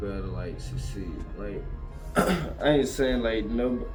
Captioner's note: clears Throat